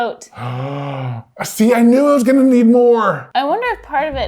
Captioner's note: gasping